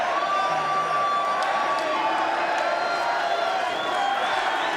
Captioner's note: crowd murmuring